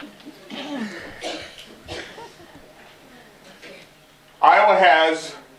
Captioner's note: laughter